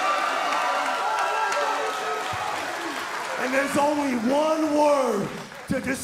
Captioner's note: cheers & applause